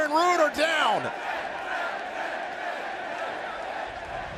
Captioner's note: fans chanting